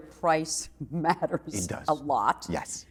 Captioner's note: laughs